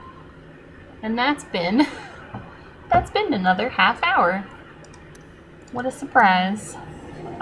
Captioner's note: laughs